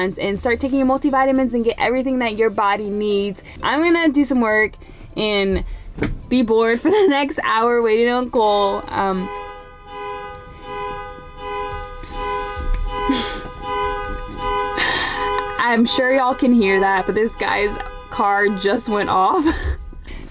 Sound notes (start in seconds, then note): 8.7 car alarm beeping; 13.2 laughing